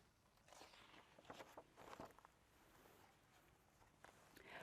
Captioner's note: page turning